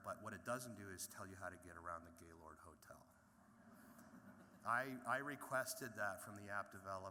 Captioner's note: laughter